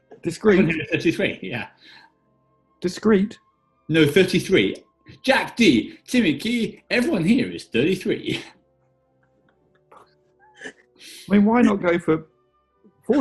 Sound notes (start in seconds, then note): 5.1 raps